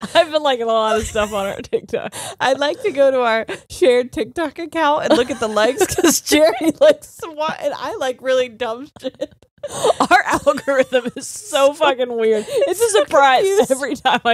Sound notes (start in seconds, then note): 8.0 both laughing